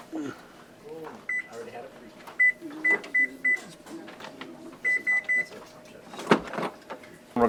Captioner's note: oven beeping; students murmuring